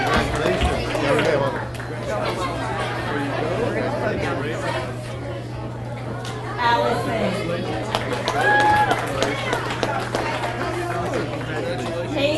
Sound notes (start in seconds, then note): 1.4 audience cheers and applauds; 4.9 people chattering; 7.8 audience cheers and applauds